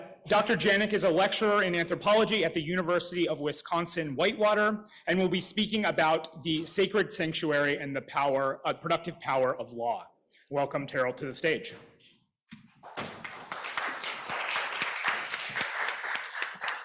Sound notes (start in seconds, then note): 12.8 applause